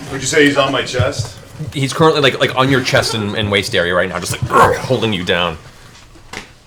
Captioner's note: grunts